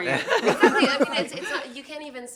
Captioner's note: laughter